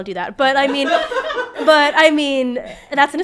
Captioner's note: all laughing